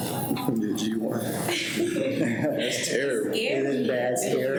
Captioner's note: people laughing